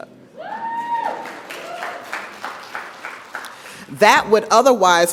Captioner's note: audience cheers; audience applauds